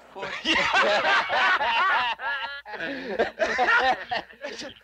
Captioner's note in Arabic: يضحك رجال الشرطة